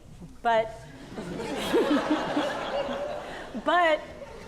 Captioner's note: audience laughing